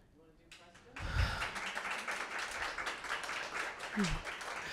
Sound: group claps

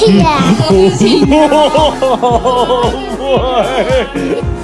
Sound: laughing

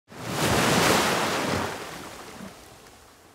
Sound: wave crashing

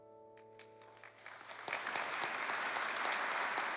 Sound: applause

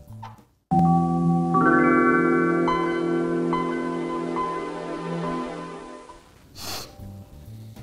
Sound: chime plays

